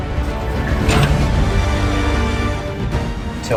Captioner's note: gate slams